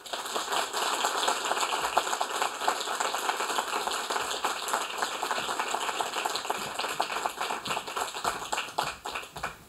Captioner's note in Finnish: Aplodeja